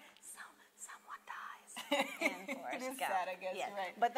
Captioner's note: whispers